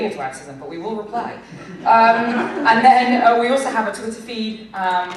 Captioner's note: laughter